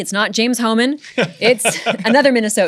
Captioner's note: laughter